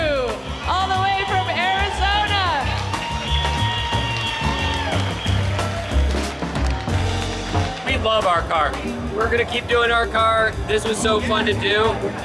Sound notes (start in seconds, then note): 2.7 applause